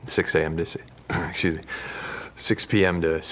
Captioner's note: clears through